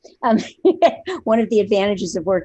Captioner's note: laughs